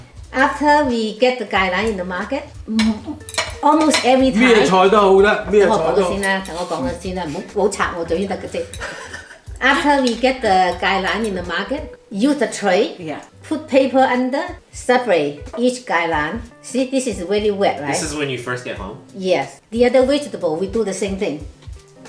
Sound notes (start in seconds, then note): 8.8 laughs